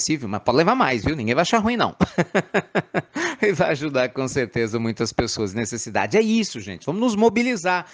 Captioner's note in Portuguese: Risos